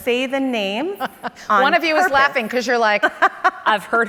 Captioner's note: laughs